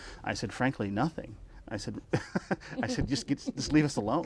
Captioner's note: laughs